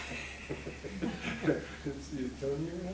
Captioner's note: laughing